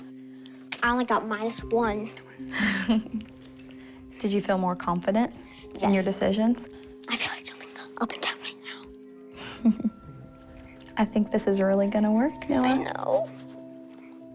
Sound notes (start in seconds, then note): 0.0 whispers; 2.5 chuckles; 6.6 whispers; 9.4 chuckles